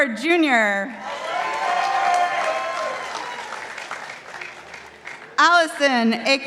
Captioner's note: participants applauding